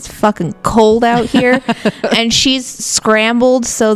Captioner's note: laughs